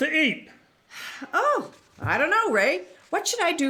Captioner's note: sighs